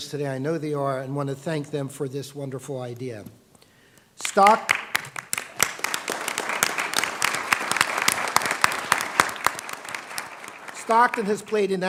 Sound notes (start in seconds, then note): 4.2 applause